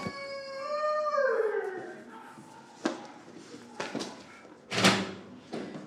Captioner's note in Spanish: llanto del perro